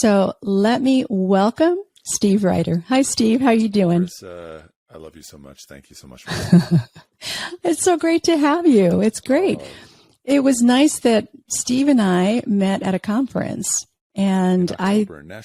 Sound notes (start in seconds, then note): 6.0 laughs